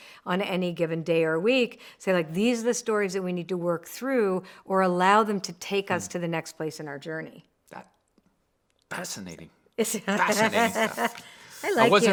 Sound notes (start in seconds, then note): 9.9 laughs